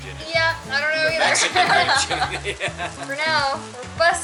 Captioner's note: laughter